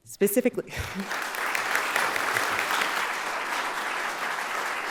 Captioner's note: audience applauding